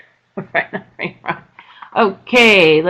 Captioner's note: laughing